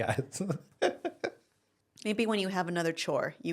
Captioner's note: laughs